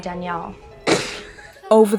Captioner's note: Tree giggles